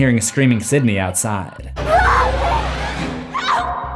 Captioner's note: screams